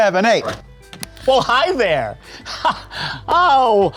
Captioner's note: laughs